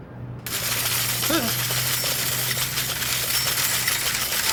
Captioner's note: silverware clattering; James yelping